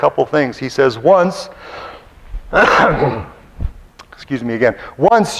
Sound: coughs

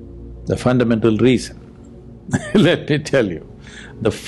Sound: laughs

